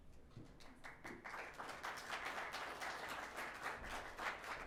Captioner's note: audience clapping